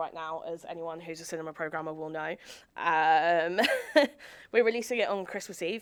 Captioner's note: chuckles